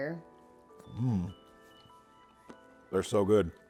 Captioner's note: person exclaims